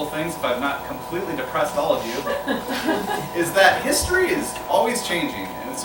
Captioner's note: laughter